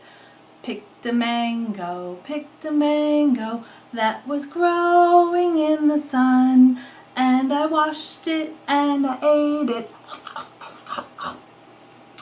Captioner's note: chomp..chomp.. chomp